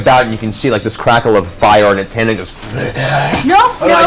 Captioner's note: panicked noises